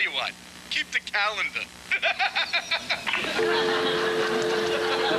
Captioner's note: laughs; audience laughs